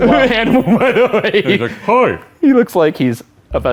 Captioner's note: laughs